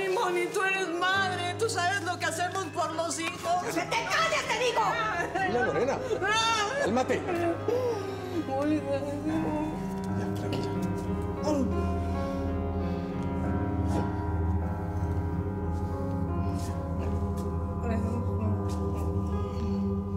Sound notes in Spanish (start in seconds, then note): 5.4 sollozos; 9.5 se sigue escuchando el piano